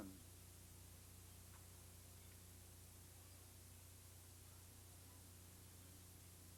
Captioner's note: none